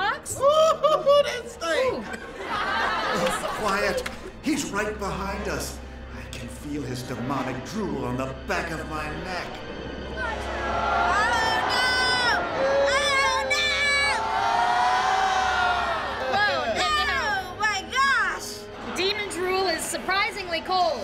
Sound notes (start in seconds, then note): 10.2 audience groaning